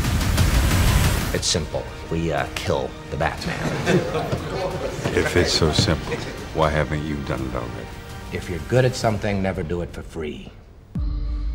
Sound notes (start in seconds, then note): 3.4 men chuckling; 10.9 intense music